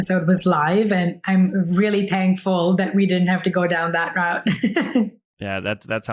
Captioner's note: laughs